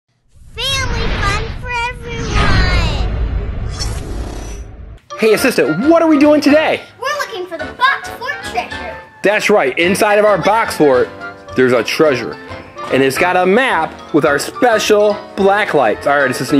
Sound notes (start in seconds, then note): 2.7 swoosh sound; 5.4 upbeat music